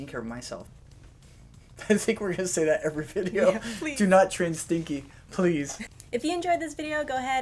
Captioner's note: laughter